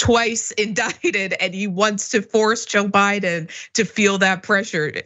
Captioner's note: laugh